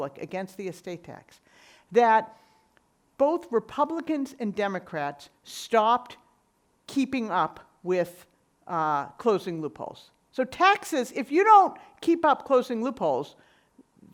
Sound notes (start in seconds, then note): none